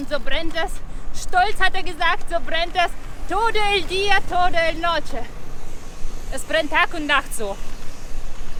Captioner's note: spanish